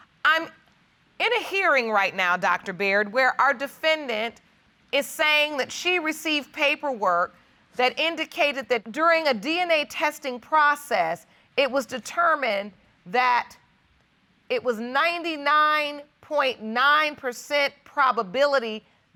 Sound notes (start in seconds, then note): none